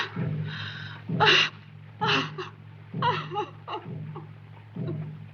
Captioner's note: White Cloud crying